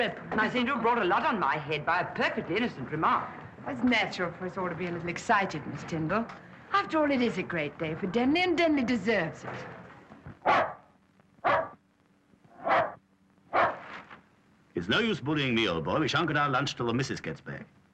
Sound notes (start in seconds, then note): 11.4 barking